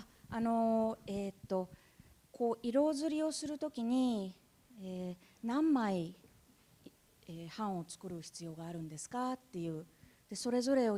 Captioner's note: speaking japanese